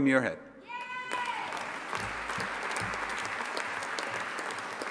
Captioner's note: audience applauding